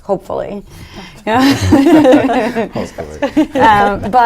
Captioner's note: laughs